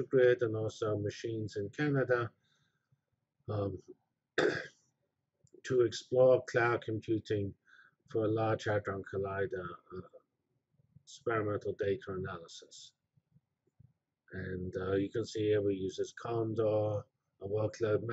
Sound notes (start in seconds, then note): 3.5 pause